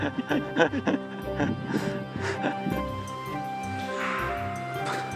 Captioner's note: laughing; laughs